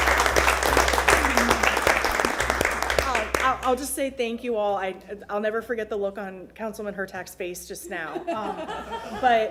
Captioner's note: applause